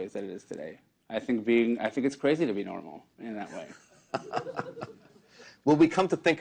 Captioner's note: laughter